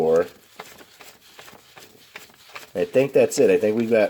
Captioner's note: notes shuffling